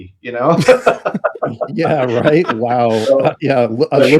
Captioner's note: laughing